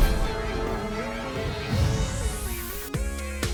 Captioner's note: none